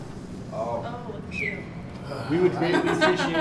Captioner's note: someone whistles; man sighs; woman laughs